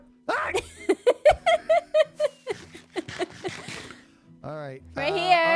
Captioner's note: laughs